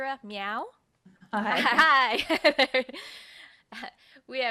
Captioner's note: laughs; chuckles